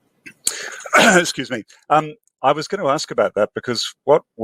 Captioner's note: coughs